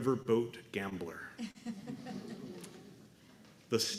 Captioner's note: laughter